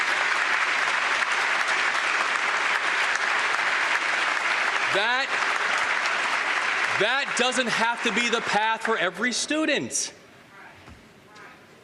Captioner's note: applause